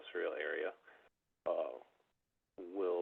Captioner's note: by phone